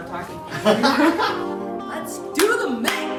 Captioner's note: both laughing